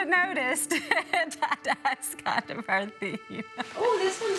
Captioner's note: laughs